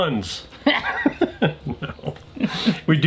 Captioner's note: laughing